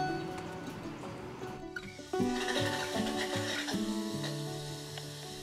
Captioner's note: water hissing